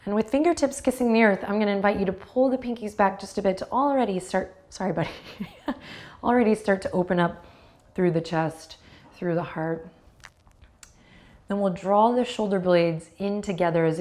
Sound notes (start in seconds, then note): 5.2 chuckles